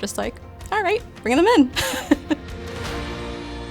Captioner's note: laughs